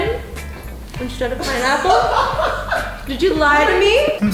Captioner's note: laughing